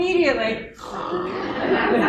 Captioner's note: snoring